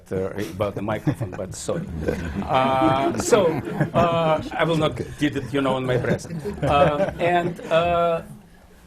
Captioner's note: laughter